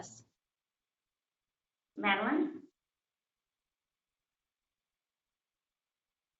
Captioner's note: pause